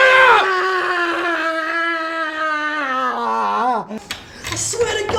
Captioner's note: screaming continues